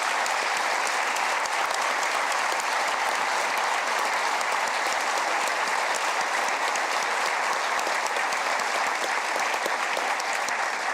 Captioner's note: applause